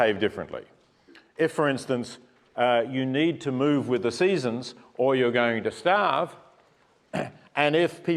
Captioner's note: cough